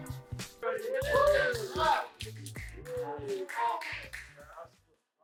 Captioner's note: cheering, applause